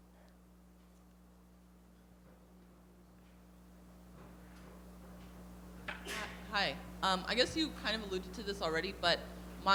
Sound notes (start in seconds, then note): 6.5 voiceover